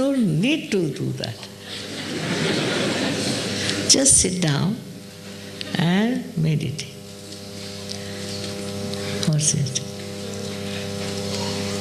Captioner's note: laughter